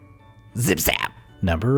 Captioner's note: shocking sound